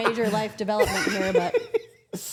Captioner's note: laughs